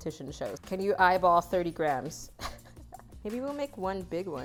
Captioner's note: laughs